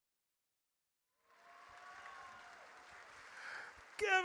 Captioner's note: audience cheers